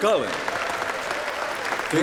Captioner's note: applause, clapping